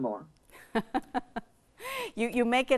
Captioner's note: laughs